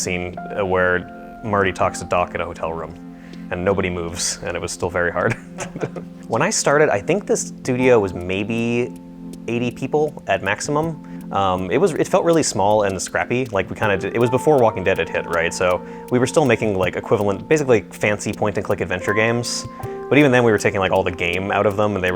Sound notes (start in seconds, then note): 5.2 laughing